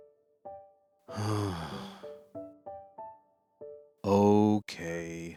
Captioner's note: sigh